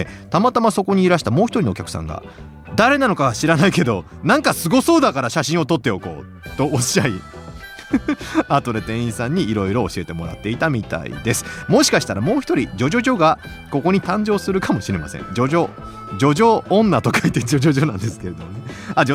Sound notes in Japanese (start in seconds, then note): 7.6 笑い